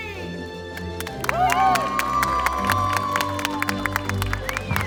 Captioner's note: cheers and applause